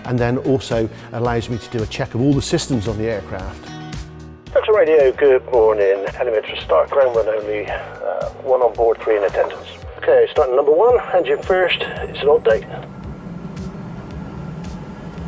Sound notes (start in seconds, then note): 4.6 speaks over the radio; 12.9 noise - rotors start